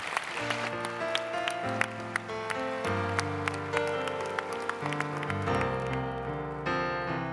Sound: audience Applauds

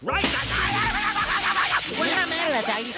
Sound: screaming

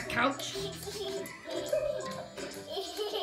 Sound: laughing

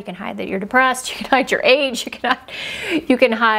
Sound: laughs

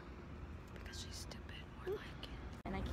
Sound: whispering

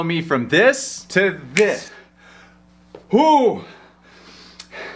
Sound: snaps fingers

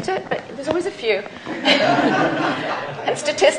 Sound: laughter

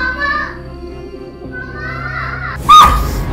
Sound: screaming; screams; screams echo

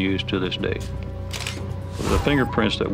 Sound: camera snapping

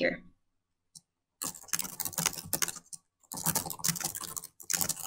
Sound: keyboard clanking

